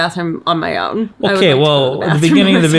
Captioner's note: laughs